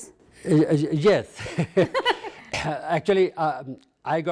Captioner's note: laughs